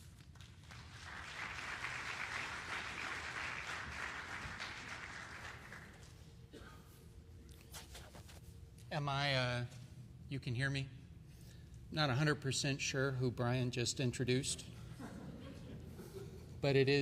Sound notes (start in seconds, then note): 0.0 applause; 16.8 laughter